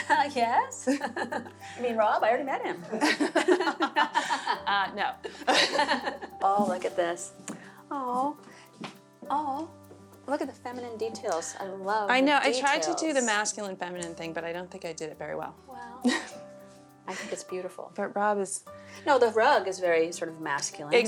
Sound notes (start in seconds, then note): 2.8 laughs; 16.0 laughs